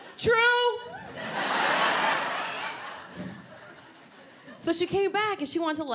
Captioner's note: audience laughs